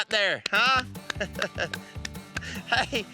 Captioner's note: laughing